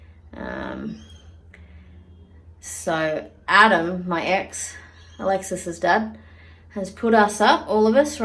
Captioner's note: none